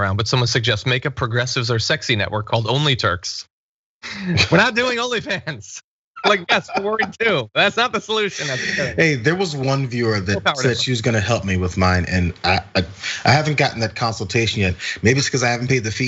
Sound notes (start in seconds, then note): 6.2 laugh